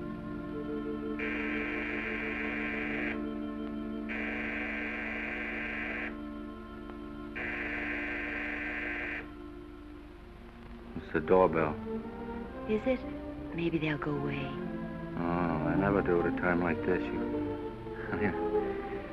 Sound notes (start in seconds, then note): 1.2 door bell buzzes; 4.0 door bell again; 7.4 door bell buzzes